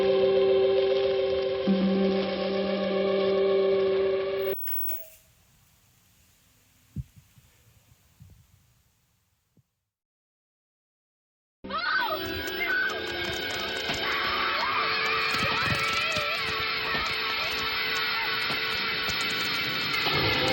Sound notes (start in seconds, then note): 1.7 static buzzing; 4.7 switch clicking; 12.1 suspenseful music; 18.8 suspenseful music